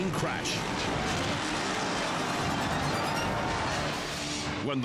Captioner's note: bikes crashing